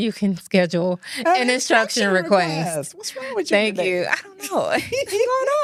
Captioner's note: laughs